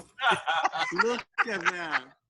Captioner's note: laughter